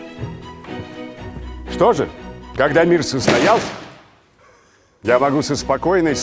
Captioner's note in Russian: звук падения